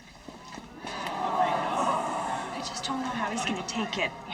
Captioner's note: audience groans